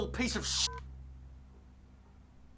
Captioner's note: phone beeps